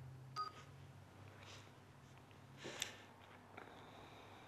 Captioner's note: phone beeping